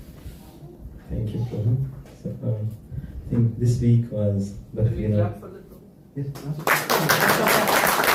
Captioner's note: applause